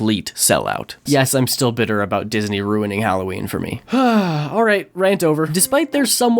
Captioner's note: sigh